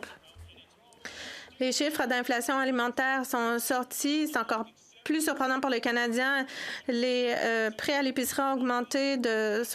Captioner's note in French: voix de l'interprète